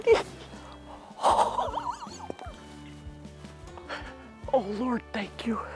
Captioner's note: breathy laugh